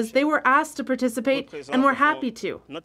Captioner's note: speaking French